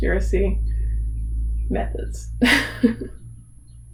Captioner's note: laughs